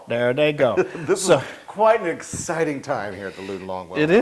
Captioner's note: laugh